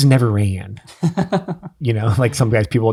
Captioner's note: innocent chuckling